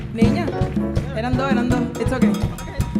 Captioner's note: speaking in Spanish